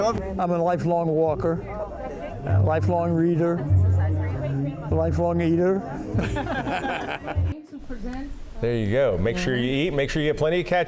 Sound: laughter

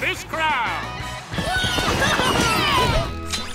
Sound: cheering

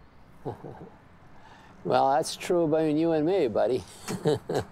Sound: laughs

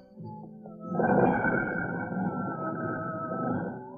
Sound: grinding

